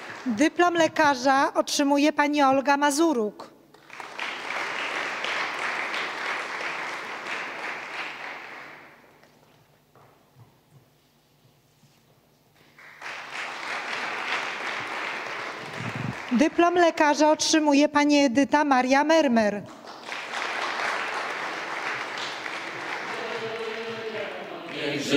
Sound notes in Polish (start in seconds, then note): 5.2 oklaski; 21.3 oklaski